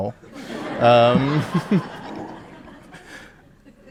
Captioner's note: audience laughing